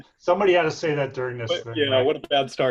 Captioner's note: faintly speaking